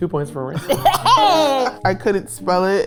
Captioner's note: chuckles